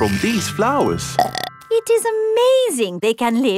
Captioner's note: burps